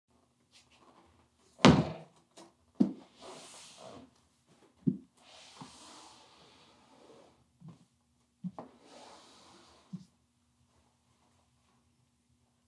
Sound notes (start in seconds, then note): 1.6 box thuds